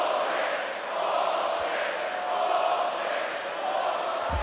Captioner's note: audience cheering